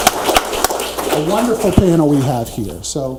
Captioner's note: audience applauds